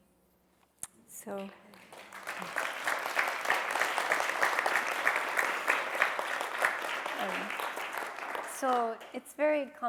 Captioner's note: applause